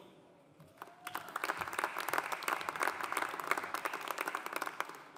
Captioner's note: audience applauding